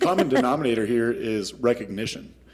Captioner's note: laughter